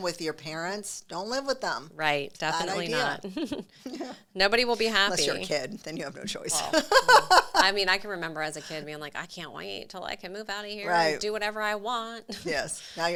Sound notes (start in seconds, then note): 6.4 laughs